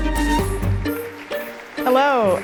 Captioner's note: audience applauding